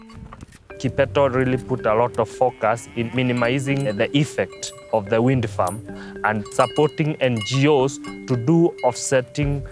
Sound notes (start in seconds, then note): 3.0 cattle moo